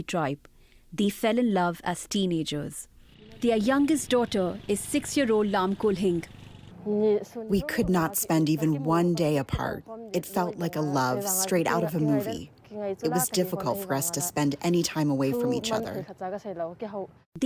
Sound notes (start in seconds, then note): 8.1 through translator